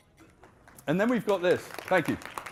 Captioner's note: audience applauding